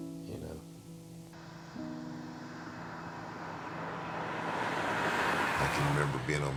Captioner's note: soft music; car revving